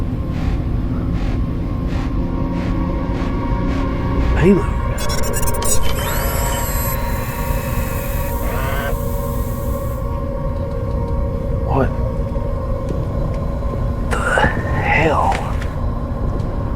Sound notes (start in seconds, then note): 0.3 tense music continues; 5.8 ship systems beeping; 10.2 tense music continues